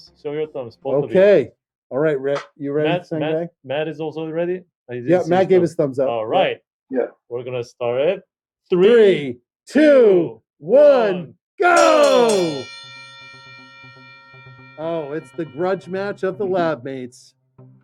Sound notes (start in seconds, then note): 11.7 bell ringing